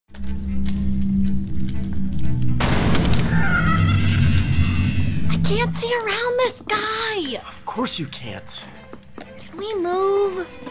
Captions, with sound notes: (Movie Sounds) I can't see around this guy. Of course you can't. Can we move?